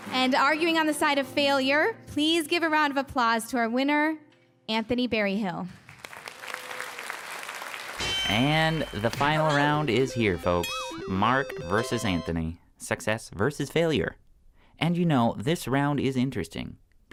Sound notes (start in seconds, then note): 5.7 applause; 8.0 bell dings